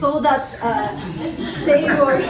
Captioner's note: laughter